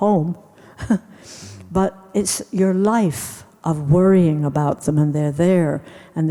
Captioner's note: laughs